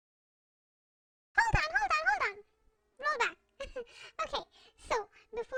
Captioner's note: MoneyMeows Giggles